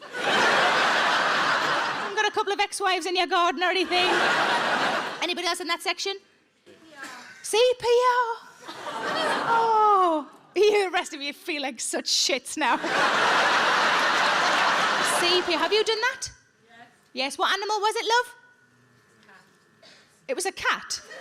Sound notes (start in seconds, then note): 0.0 audience laughs; 3.7 audience laughs; 8.7 audience chuckle; 12.7 audience laughs